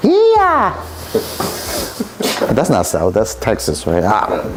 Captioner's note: both chuckling